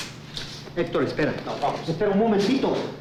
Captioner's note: speaking in foreign language; Jose speaking in foreign language